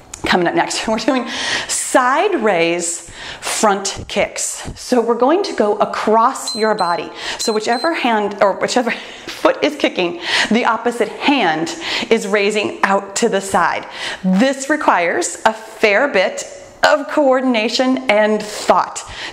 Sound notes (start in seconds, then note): 7.3 timer beeps